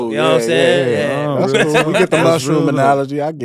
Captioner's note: mumble in agreement; laughing